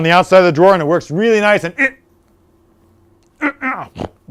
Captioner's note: grunts